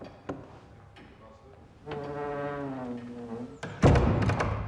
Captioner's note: door creaks shut